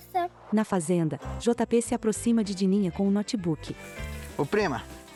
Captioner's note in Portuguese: Ruídos de mata